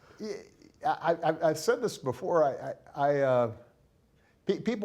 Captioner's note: laughing